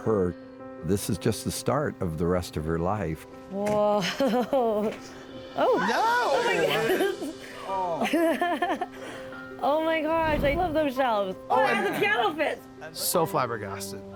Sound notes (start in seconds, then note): 4.0 chuckles; 5.6 all exclaiming and laughing; 8.0 laughs